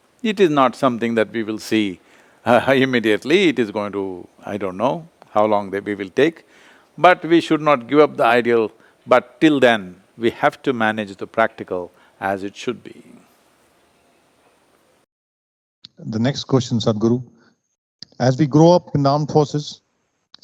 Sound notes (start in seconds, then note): none